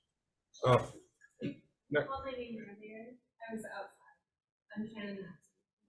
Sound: speaks faintly

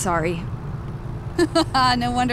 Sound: laughing

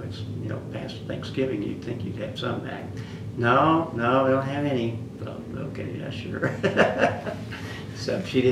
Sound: laughs

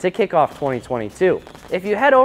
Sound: popping sound

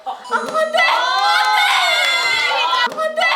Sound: shouts out in despair

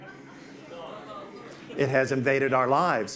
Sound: audience responds

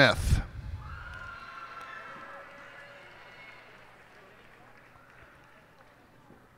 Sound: cheers and applause

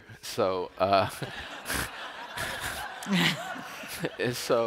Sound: laughter

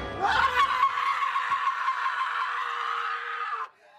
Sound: screaming

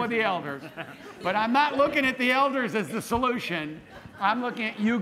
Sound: laughter

